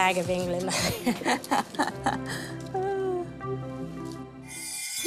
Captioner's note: laughs